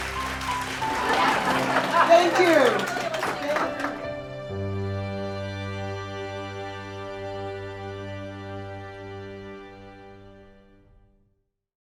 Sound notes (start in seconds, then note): 0.1 audience laughs; 3.3 gentle music